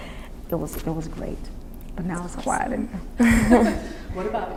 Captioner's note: laughs